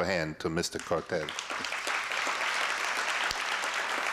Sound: applause

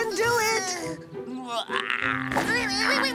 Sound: emotion yawns; Mona grunting

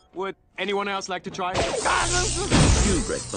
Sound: buzzing

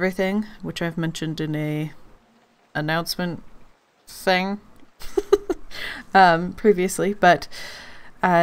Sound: laughs

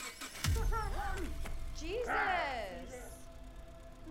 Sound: car engine whirring

